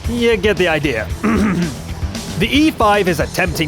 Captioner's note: clears Throat